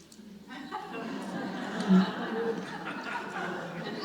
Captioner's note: audience laughs